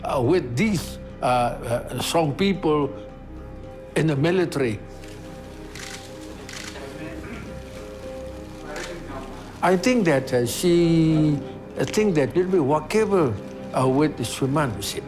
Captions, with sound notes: with these strong people in the military. (sounds of photos being taken and talking in Burmese) I think that she thinks that it will be workable with Shwe Mann.